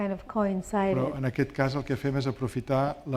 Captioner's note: speaking spanish